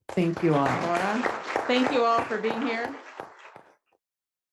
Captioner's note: attendees applauding